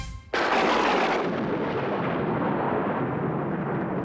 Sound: thunder Clapping

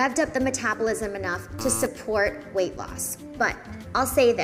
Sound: buzzer buzzing

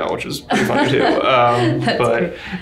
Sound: laughing

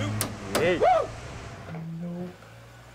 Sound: Mac whoops

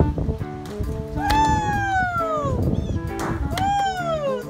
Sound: voiceover

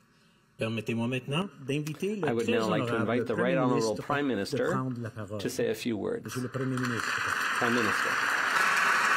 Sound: speaking French

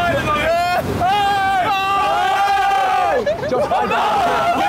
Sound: all cheering

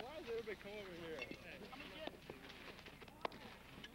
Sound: indistinct chatter; chatter continues

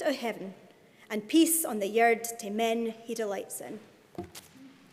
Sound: speaking in Scots

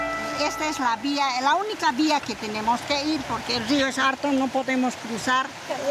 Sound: speaking in foreign language

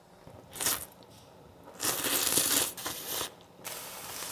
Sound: slurping

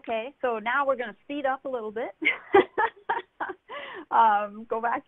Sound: laughs

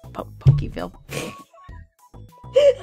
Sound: snickers

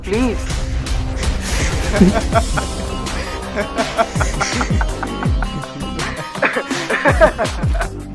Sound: cunning Laugh

